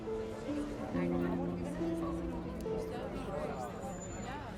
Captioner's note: people chatting